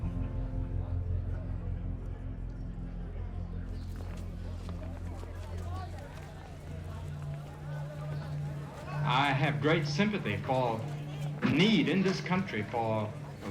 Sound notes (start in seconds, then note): 3.7 chatter